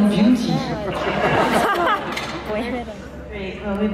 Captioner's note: laughs